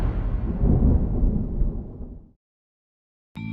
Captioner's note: thunder